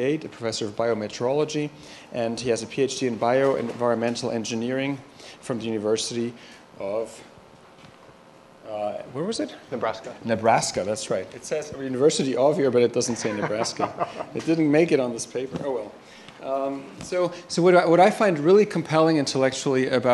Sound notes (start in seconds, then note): 13.1 chuckles